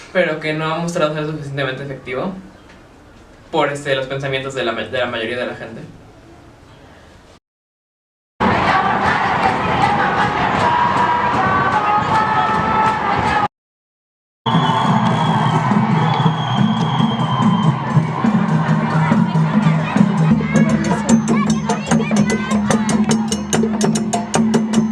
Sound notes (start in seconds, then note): 8.4 Feminist chants; 8.9 applause